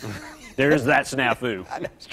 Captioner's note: laughter